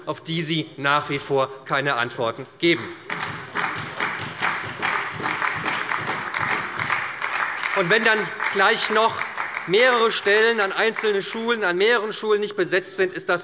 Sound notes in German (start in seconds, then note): 2.8 Beifall bei der SPD